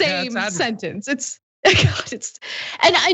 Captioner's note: laugh